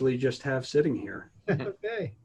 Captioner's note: laughter